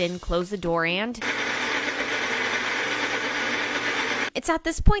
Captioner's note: Magic Bullet blending